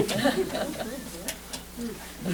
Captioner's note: laughter